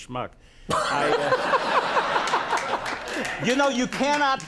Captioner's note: Conan laughs